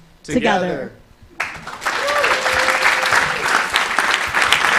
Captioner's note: applause, cheering